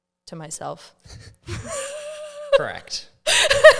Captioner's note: laughs